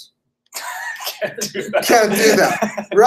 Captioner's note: laughing